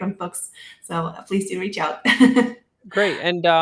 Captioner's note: laughs